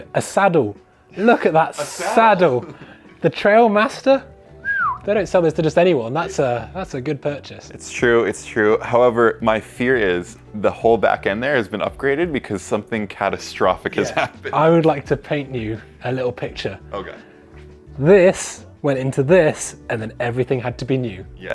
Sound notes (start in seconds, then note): 4.6 whistles